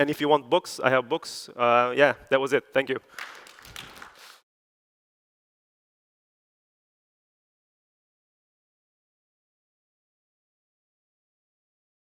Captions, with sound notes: And if you want books, I have books. Yeah, that was it. Thank you. [APPLAUSE]